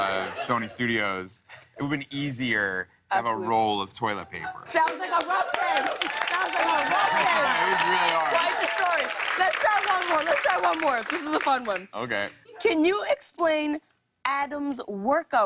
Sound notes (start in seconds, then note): 4.5 cheers and applause